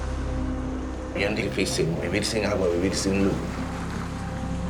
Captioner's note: man speaking Spanish